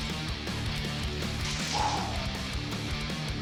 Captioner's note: exhales sharply